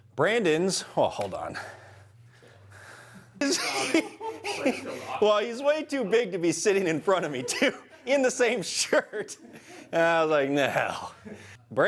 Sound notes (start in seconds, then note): 3.4 laughter